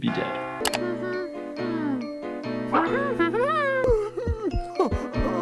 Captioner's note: Toothy humming